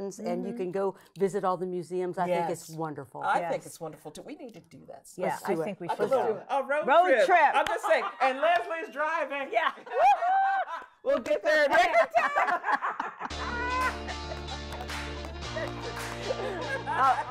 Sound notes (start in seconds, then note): 11.9 women laughing and clapping; 13.9 women laughing